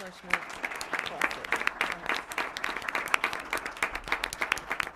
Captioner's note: applause